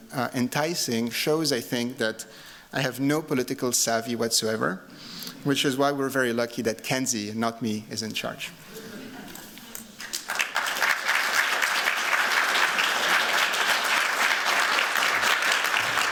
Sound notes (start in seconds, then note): 8.7 laughter; 10.0 applause